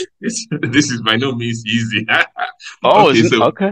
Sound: laughs

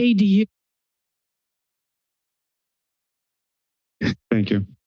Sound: silence

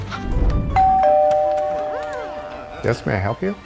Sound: bell dings

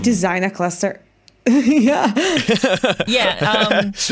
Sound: laughter

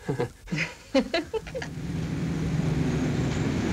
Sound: laughter

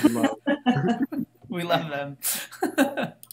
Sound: all laughing

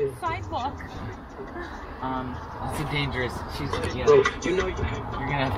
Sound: faintly speaking

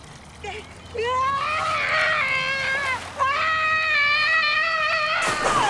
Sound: screaming

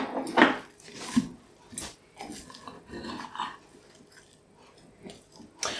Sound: the sound of a pie being mercilessly cut open

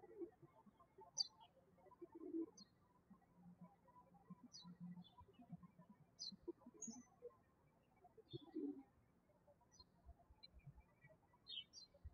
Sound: birds chirping

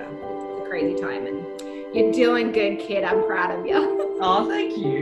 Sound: laughs

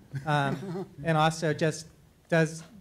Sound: laughing

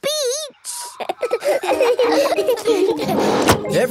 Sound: all laughing

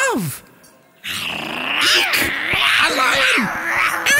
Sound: roaring

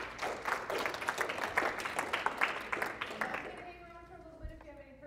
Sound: applause

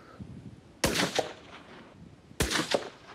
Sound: gunshot rings

